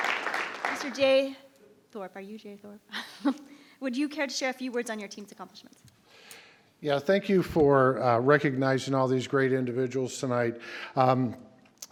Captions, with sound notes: Mr. Jay Thorpe, are you Jay Thorpe? (chuckles) Would you care to share a few words on your team's accomplishments? - Yeah, thank you for recognizing all these great individuals tonight.